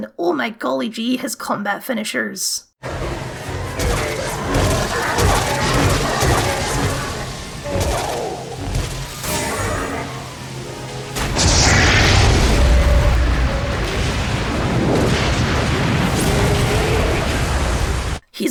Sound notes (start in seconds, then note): 2.8 badass Noises